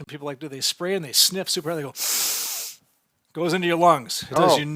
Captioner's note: sniffing